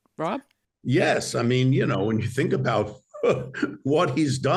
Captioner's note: laughs